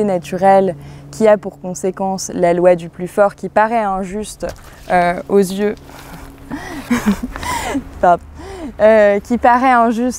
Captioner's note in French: rires